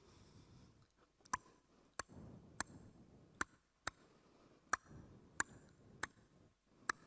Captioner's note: clicks tongue rhythmically